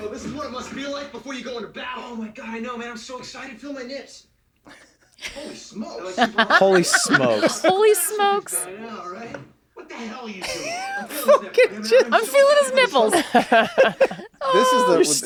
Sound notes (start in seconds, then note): 6.0 laughs; 10.4 he laughs